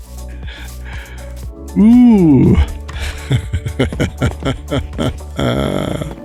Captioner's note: laughs